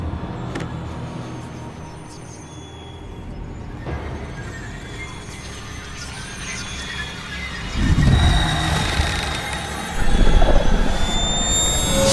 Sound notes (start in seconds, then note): 5.4 dramatic orchestral music; 5.4 ominous whispers; 7.7 mantel creaking